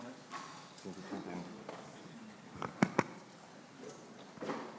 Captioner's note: speaking faintly